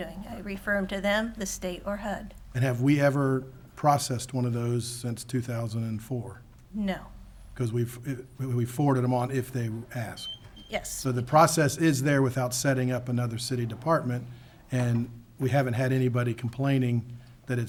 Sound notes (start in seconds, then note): none